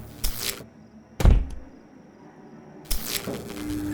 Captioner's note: electric Zap; pounding on Door